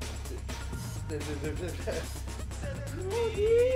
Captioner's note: mumbles; stammers